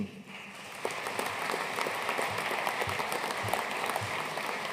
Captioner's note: audience applauding